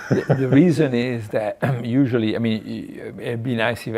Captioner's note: laughing; clears throat